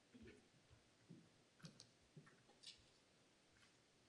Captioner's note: footsteps